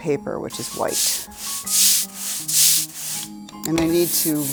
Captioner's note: roller scraping